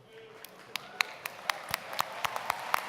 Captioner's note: applause